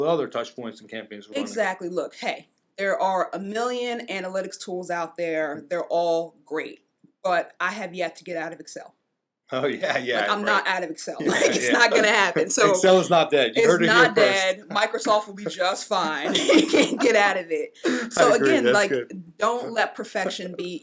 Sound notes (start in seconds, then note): 16.1 laughs